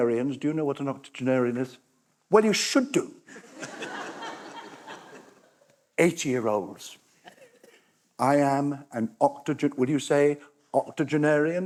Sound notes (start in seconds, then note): 3.3 laughter